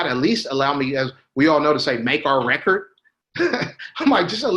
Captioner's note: laughs